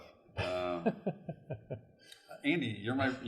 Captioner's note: chuckles